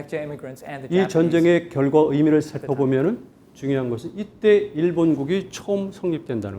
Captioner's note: speaking in Korean